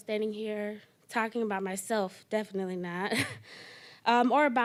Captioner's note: chuckling